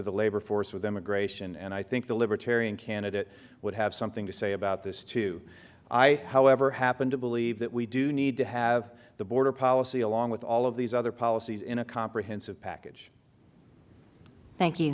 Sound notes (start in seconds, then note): none